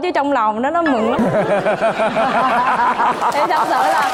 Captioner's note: laughing